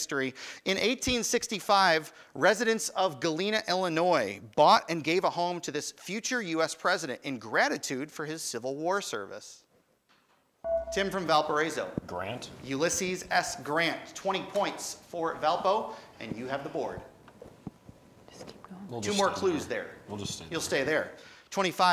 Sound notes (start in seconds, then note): 10.6 buzzer